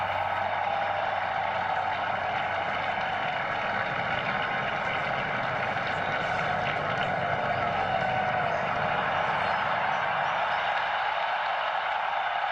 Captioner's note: cheers and applause